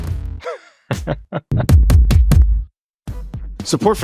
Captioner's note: laughing